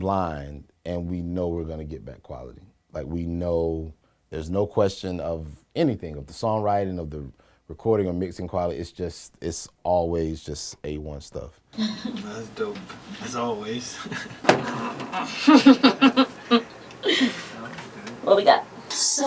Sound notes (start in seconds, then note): 11.7 chuckles; 15.2 laughs